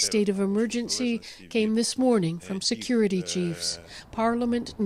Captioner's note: speaking Foreign Language